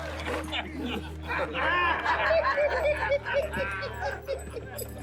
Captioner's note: gang laughing